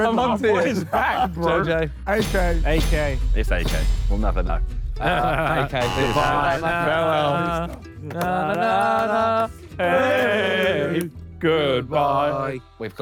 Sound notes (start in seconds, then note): 5.7 buzzer buzzes